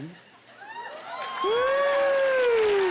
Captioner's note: whooping and cheering